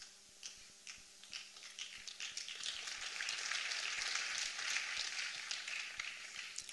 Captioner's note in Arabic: تصفيق